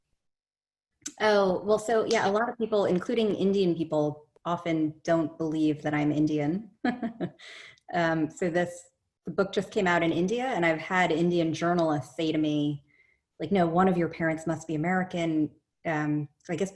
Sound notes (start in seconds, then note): 6.8 chuckles